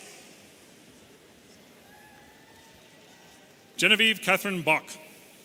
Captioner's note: audience cheering